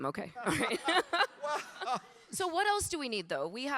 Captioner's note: everyone laughing